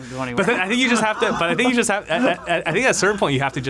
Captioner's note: laughs